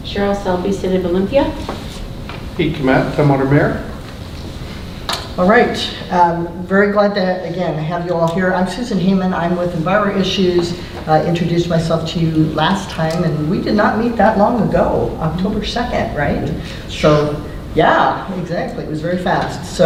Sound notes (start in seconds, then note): none